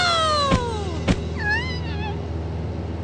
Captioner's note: whimpering